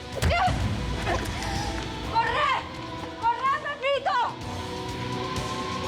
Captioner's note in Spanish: puñetazo